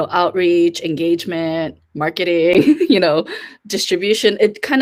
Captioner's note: laughs